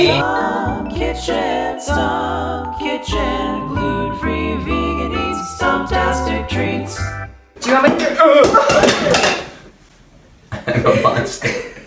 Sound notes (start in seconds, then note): 8.7 lid drops; 10.5 chuckles; 10.6 laughs